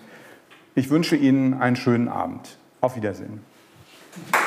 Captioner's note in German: klatschen